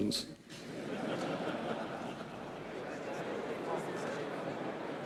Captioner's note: audience laughs